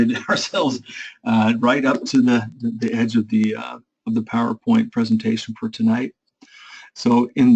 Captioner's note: laugh